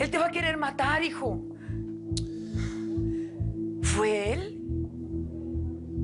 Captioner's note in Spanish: Chasquido bucal de él